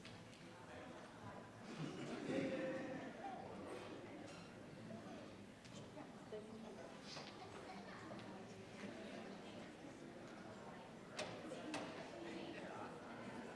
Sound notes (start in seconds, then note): 1.5 attendees chattering